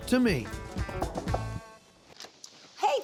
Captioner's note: knocking on door